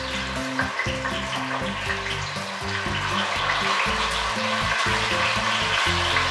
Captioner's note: sizzle